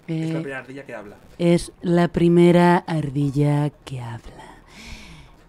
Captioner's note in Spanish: voz de reportera